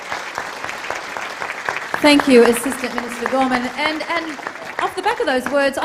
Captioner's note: applause